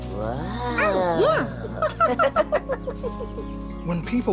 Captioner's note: Elmo laughs